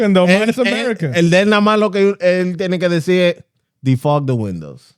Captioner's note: speaking Foreign Language